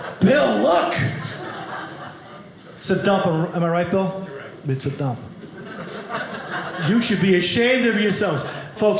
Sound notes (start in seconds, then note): 5.4 audience laughing